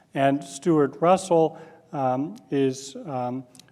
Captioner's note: none